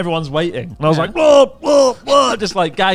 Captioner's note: hurling